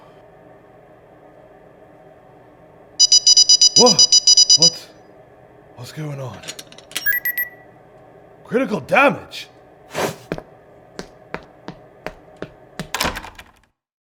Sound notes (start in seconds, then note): 3.0 device alarm screeches